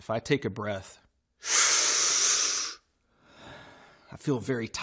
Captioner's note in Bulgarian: силово вдишване